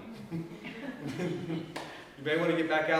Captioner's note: audience laughs